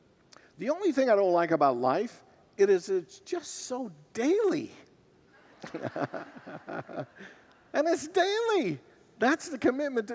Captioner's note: congregants laugh